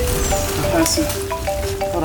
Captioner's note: cell rings